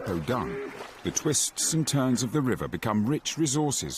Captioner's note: none